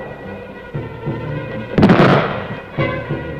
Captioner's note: suspenseful music; explosion